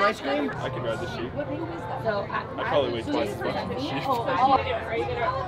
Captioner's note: chuckling